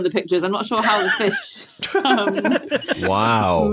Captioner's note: giggle